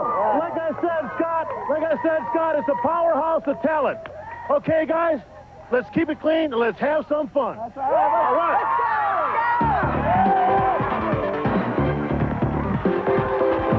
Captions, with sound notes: - Like I said, Scott, it's a powerhouse of talent. Okay guys, let's keep it clean and let's have some fun. (kids cheering) - Let's go! - Let's go! (exciting synth music)